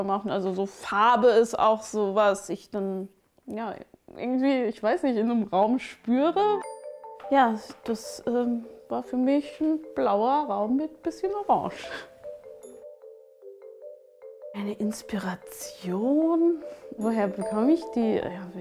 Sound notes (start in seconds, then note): 12.9 dreamy sounds